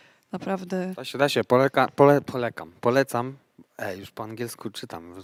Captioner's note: speaks with English accent